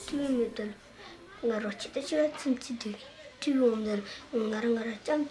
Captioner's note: speaking Bhutanese